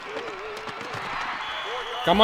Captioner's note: whistle blows